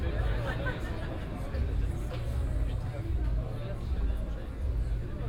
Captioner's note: people murmuring